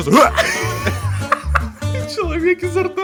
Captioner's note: laugh